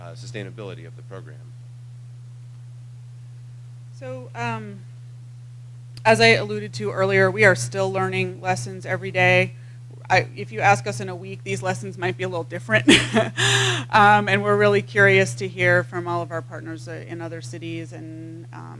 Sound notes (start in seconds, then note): 12.8 laugh